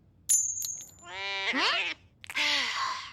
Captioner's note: sighing